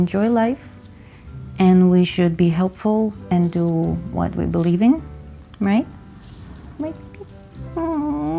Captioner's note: Puddles kisses